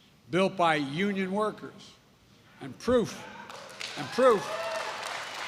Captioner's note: applause